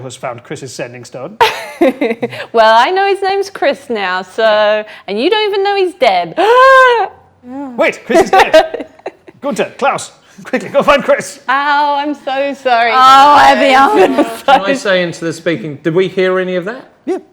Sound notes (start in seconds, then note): 7.4 gasps; 13.4 overlapping chattering